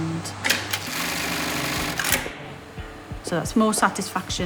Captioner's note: machine vibrating & clicking